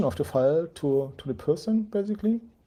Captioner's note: none